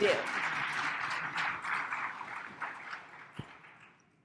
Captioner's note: audience applauding